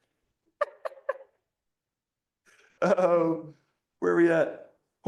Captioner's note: laughter